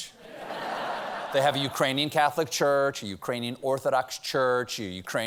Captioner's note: laughter